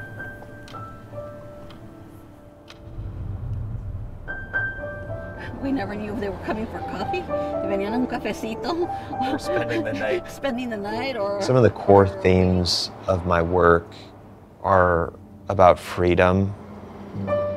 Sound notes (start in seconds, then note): 7.7 speaks in Spanish; 17.3 pensive music